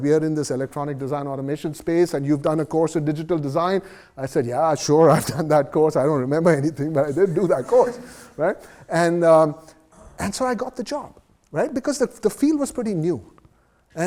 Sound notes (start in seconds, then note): 7.1 laughs